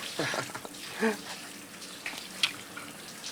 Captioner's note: laughing